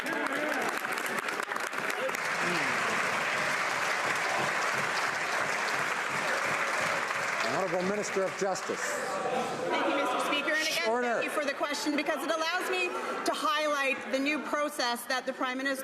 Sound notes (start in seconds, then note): 4.3 some Applause